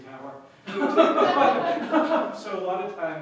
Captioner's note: laughter